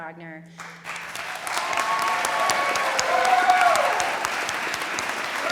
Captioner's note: audience applauding